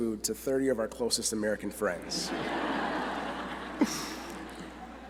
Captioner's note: laughter